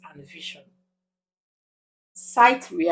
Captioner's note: paause